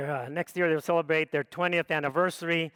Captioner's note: none